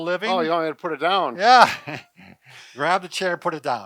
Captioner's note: laughing